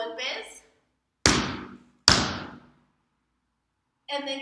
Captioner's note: two alternating stomps